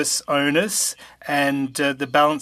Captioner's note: speaking french